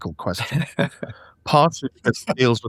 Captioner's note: laughing